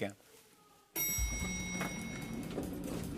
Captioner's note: elevator bell dings